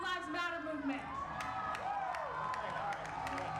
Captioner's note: applause